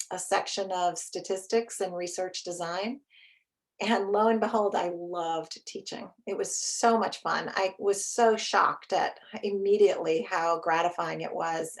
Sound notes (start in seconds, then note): none